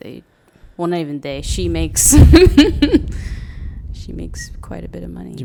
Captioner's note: laughs